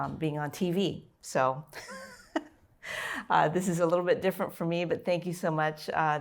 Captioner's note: laughter